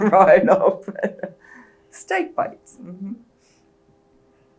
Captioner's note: laughs